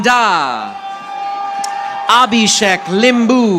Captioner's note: audience applauding